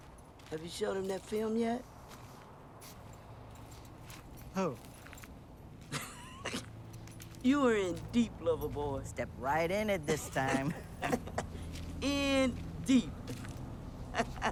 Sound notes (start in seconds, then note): 5.9 Joyce chuckling